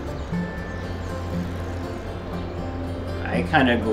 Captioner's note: birds chirping; gentle music continues